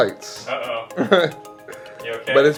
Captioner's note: laugh